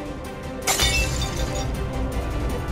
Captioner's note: glass shattering